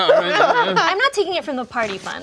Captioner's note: laughing